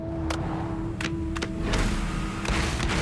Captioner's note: hand clapping the song